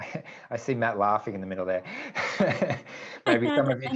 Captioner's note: laughs